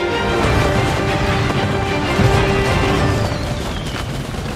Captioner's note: cannons booming